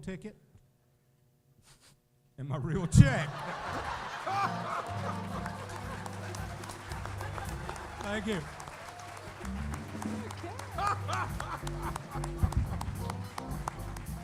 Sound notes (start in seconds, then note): 6.1 laughter; 8.1 applause